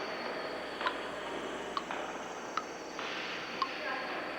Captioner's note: liquid dripping